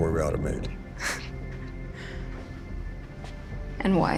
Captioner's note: Rebecca scoffs